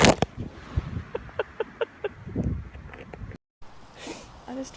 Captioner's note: laughing